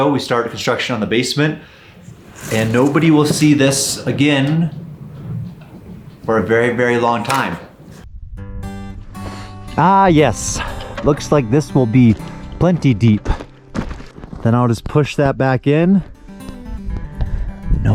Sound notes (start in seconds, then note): 7.7 slamming bucket; 9.3 gentle music; 13.2 footsteps crunching